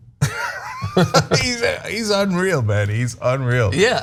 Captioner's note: laugh